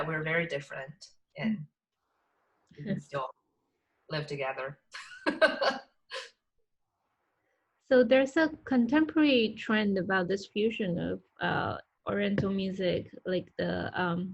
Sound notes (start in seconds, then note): 5.2 laugh